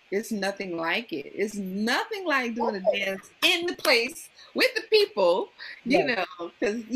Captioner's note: claps rhythmically